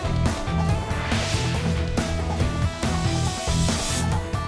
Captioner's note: graphic swooshes